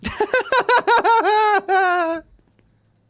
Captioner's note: laughs